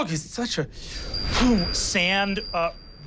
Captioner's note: whistling woosh